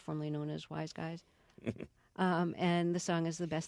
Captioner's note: soundbite of laughter